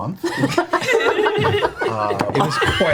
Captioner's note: all laugh